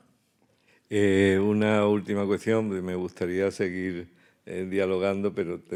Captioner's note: speaking in Spanish